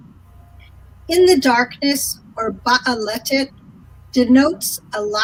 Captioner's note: speaking in foreign language